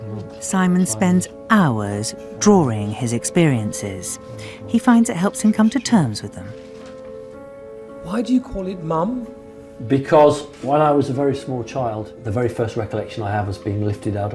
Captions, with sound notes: - [Voiceover] Simon spends hours drawing his experiences. He finds it helps him come to terms with them. - [Voiceover] Why do you call it mum? - Because when I was a very small child, the very first recollection I have is being